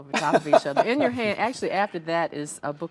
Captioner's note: laughs